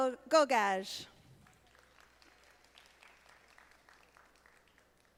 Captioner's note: audience applauding